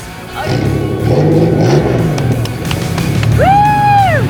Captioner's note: motor whirring